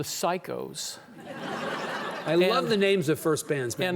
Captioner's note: audience laughing